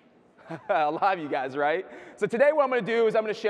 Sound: chuckles

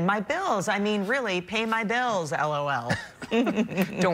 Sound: laughter

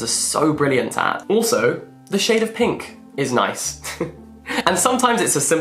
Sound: chuckles

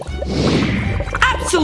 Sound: frenetic music; air whooshing

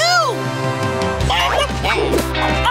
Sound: clucking

